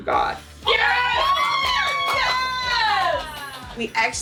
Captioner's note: uproarious applause